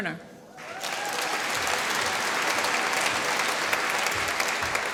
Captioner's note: applause